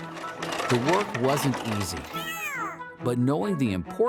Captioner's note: Charles yelps "Owww!"